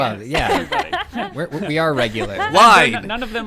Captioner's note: group laughing